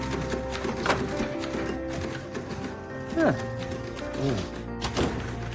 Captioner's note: typewriter clacking